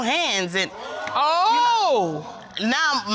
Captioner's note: audience exclaims